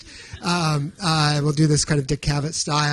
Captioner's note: audience chuckling